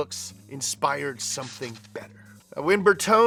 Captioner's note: light bulb buzzes